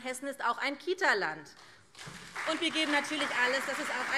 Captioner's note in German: Beifall SPD und CDU